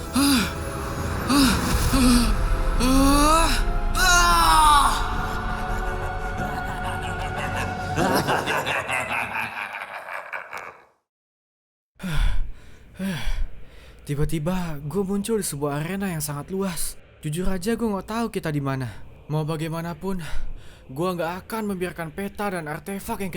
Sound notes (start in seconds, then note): 8.1 laughs